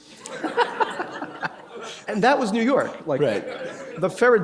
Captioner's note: laughter